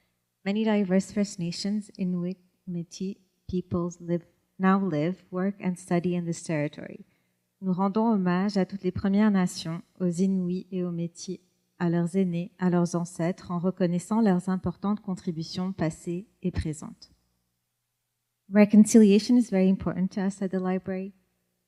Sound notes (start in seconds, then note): 7.4 speaks French